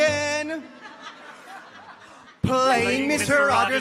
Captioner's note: audience chuckles